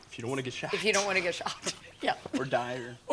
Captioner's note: laughs